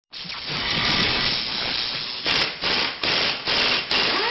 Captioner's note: logo whooshes